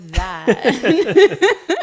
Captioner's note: laughing